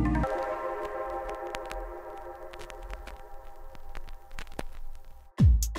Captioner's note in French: crépitements